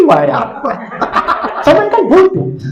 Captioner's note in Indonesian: Audiens tertawa